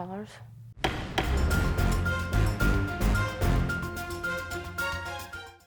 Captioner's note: tense music; gavel banging